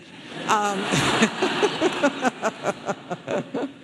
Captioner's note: audience laughing